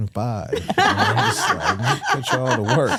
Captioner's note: hosts laughing